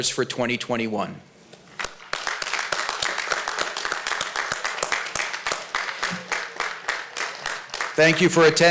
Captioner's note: applause